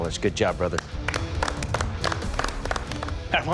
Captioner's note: clapping